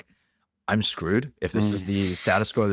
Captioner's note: laughs